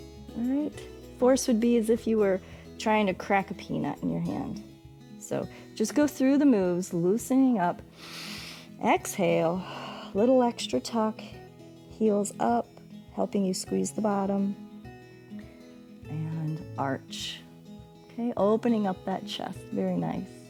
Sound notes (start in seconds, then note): 7.9 exhales